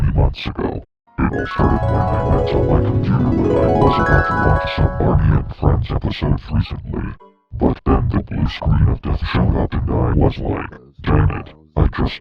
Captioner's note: flashback Sound Effect